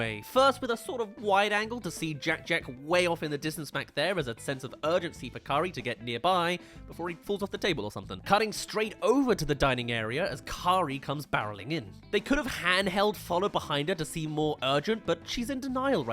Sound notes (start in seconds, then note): none